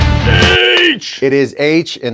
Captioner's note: exclaims